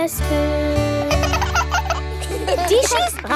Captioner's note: both laugh